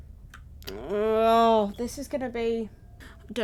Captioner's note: upset noises